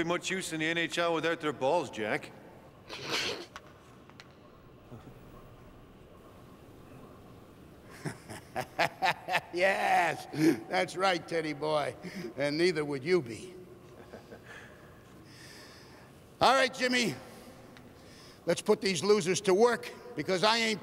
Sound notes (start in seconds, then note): 2.2 laughing; 7.8 chuckling